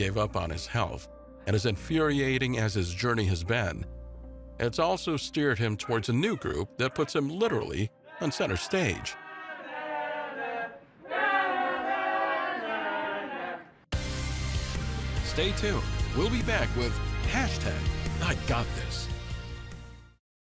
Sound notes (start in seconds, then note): 10.0 people clamor; 13.9 upbeat music